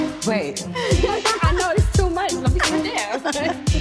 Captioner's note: tense hip-hop music; guests laugh; laughs